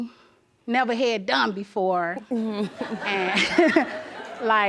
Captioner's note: audience laughs